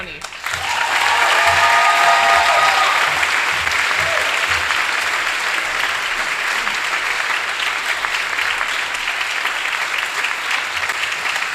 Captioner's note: applause